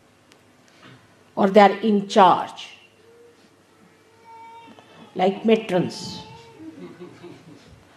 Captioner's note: laughter